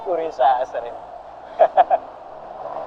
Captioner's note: laughs